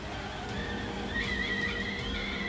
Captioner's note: kettle whistling